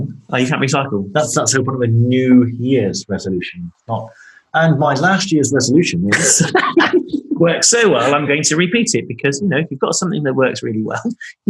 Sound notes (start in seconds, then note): 5.2 laughing